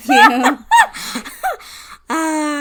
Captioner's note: cackles